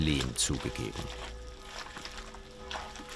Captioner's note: bell ringing